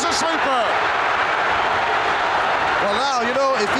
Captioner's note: audience cheering